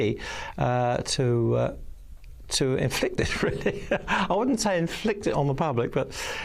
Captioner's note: laughs